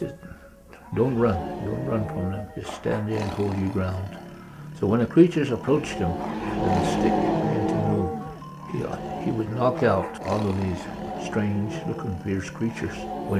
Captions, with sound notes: Don't run, don't run. Just stand and hold your ground. So when the creatures approached him, (creatures growling) he would knock out all of these strange-looking, fierce creatures. When he had them all down, and then once again,